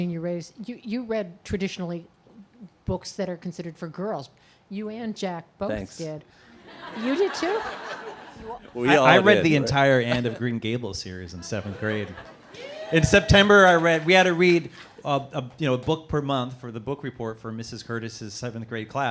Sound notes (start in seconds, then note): 6.8 laughing